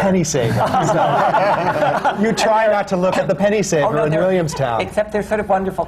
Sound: laughter

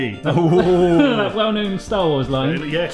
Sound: laughs

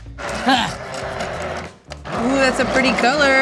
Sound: blender grinding

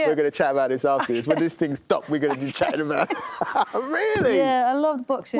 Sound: laughs

